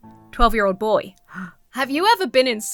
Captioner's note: gasps